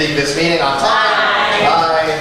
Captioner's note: A chorus of ayes